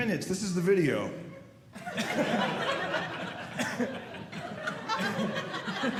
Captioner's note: audience laughing